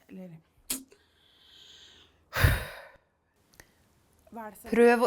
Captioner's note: takes a deep breath